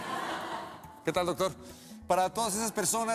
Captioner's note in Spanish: risas